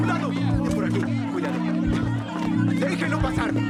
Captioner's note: chatter